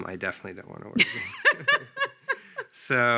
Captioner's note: laughing